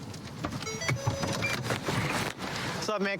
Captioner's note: car notification bell dings